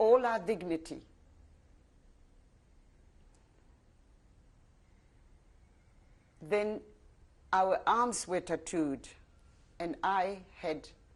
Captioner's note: pauses for 6 seconds